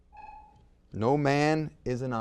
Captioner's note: timer beeps